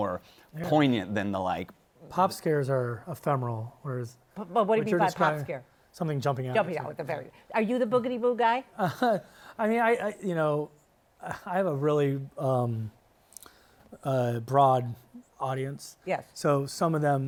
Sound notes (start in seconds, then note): 8.8 chuckles